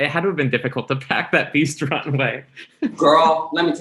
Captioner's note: laughs